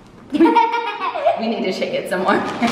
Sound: laughing

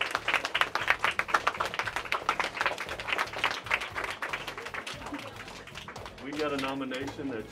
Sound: applause

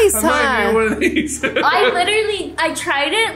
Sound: laughs

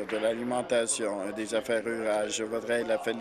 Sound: applause

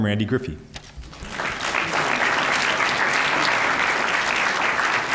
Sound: applause

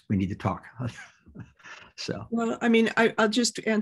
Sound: laughter

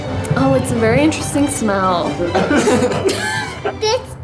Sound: laughs

